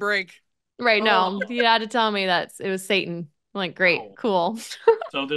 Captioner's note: laughs